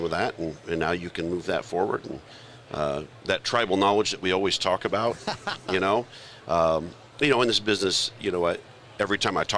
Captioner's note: laughter